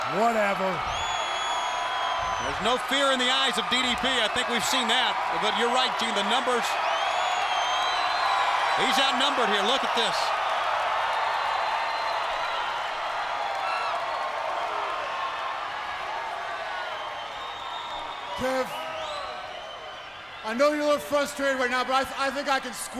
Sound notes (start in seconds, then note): 0.0 crowd cheering; 11.2 crowd cheering